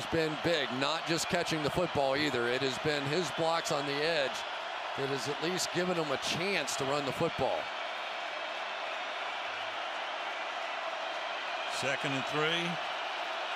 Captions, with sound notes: He has been big. Not just catching the football either. It has been his blocks on the edge that has at least given them a chance to run the football. [crowd cheering] Second and 3.